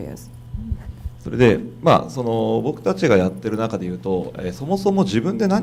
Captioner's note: speaking foreign language